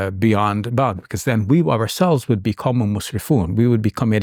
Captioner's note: speaks in Arabic